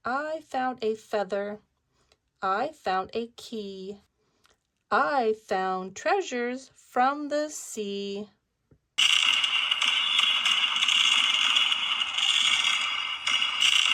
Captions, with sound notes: I found a feather. I found a key. I found treasures from the sea. (fireworks bang)